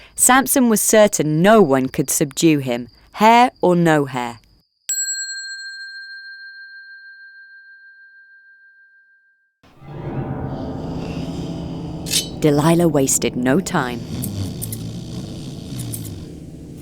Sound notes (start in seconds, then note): 4.9 bell dings; 9.6 ominous music; 10.2 Samson snoring; 14.9 blade slicing